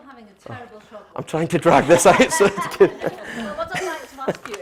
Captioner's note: laughter